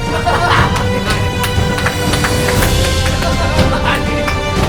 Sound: seal clap

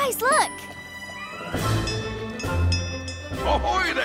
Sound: bell ringing

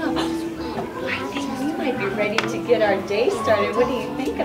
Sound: gasps

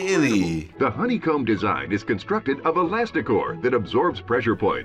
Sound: voice-over

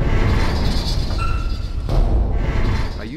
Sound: metallic rumbling; thudding

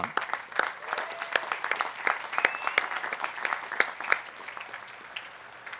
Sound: applause

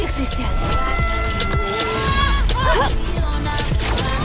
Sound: screaming

